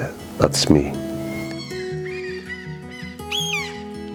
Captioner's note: bird cawing